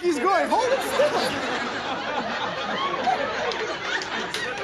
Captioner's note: audience laughing